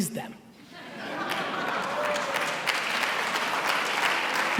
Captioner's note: laughing and cheering